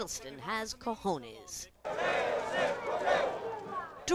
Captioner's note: chanting in Spanish